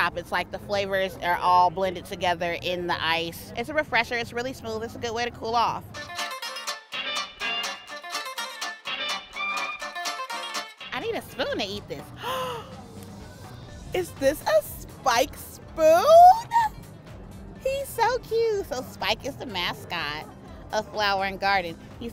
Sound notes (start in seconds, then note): 6.5 upbeat music; 12.2 gasps